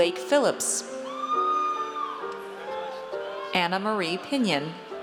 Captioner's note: audience cheers